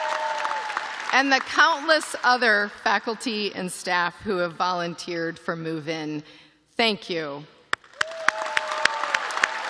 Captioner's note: cheers and applause